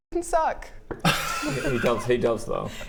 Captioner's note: very intimidated laugh